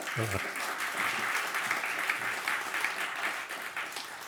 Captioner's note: laughs; audience clapping